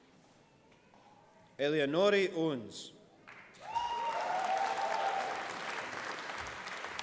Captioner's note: applause